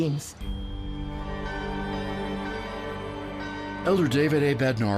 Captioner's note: bells tolling